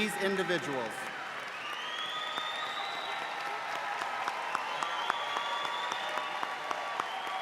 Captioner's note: audience applauding